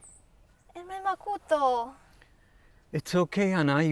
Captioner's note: speaks in Spanish